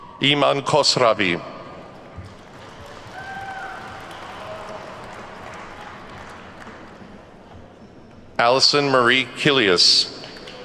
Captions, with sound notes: Iman Khosravi. (attendees clapping) Allison Marie Killius.